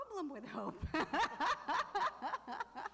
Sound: laughing

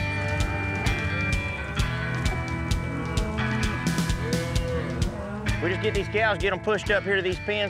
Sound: cattle mooing

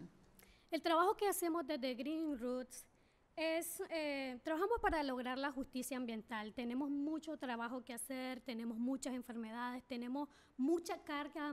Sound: speaking spanish

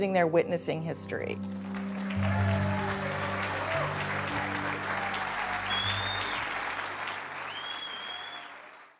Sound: applause

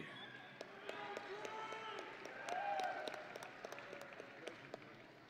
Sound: audience and graduates cheering

